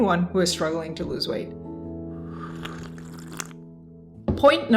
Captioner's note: slurps